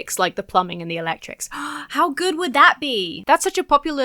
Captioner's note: gasps